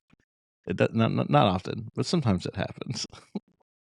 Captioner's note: small laugh